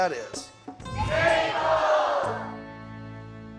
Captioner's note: everyone shouting